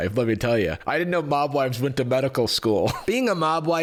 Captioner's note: chuckles